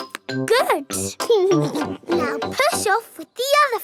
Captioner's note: chuckles